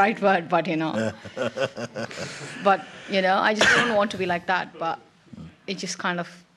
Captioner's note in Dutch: lacht